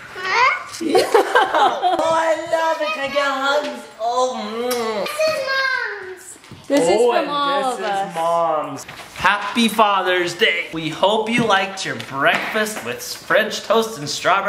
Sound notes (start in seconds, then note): 0.8 laughing